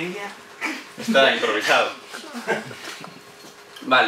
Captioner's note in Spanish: risas